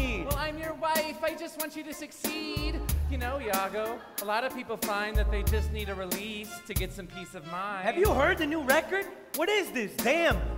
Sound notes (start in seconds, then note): 3.0 laughter